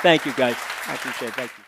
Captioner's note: audience applauding